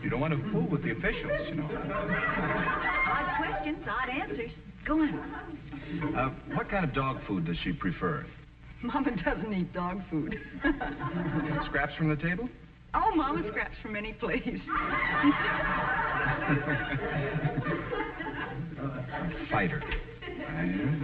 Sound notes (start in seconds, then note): 1.3 chuckling; 5.0 audience laughing; 18.6 audience laughing